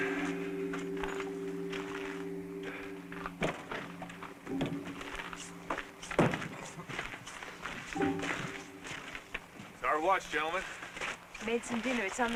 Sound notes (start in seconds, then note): 4.3 laughs